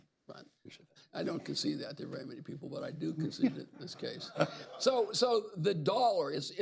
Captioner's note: laughter